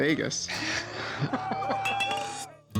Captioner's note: Rick snickers